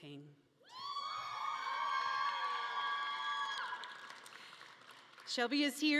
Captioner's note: audience cheering and clapping